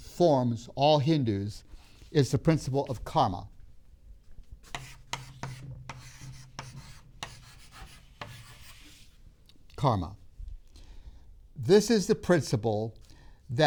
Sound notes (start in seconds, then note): 4.6 chalk sounds on board